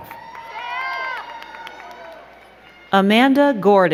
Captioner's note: crowd cheering and clapping